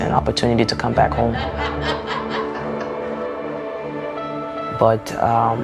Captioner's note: people laughing